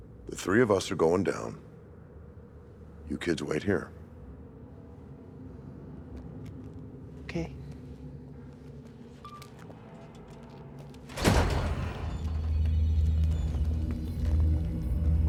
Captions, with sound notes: - The three of us are going down. You kids wait here. - Okay. (door squeaks) (eerie music)